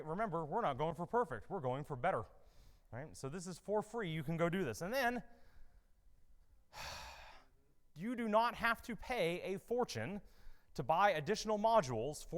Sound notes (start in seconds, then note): 6.7 sighs